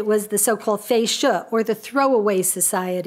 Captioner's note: speaks a foreign language